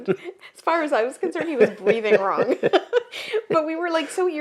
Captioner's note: laughs